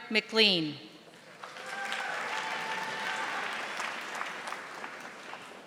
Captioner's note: audience applauding